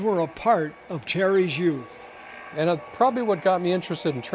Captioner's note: voiceover